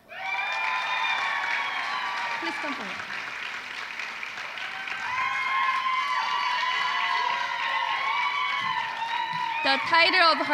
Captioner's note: applause